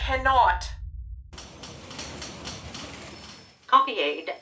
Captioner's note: busy office sounds